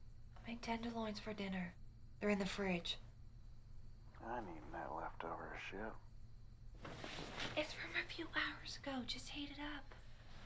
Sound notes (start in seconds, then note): 6.8 sheets rustling